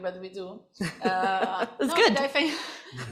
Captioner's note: laughter